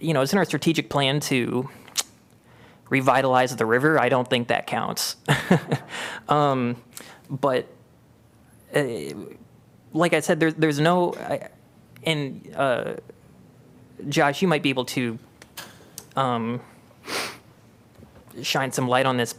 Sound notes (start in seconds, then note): 5.2 laughter